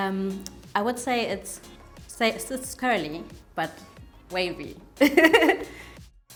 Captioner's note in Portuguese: risos